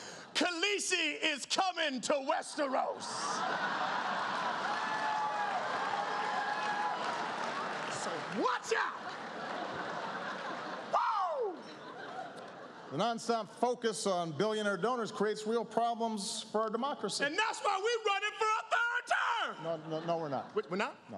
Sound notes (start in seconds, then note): 3.4 cheering